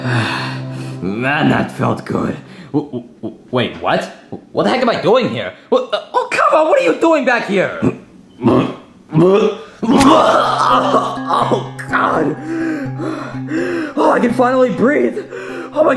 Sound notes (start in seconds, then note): 9.2 MongUs grunting; 12.7 panting